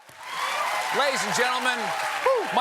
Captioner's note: cheers and applause